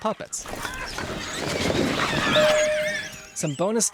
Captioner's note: baby pteranodon's squeals